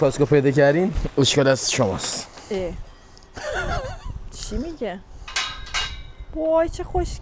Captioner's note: laughs